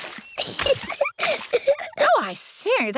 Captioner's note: giggles